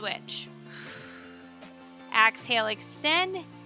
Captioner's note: exhaling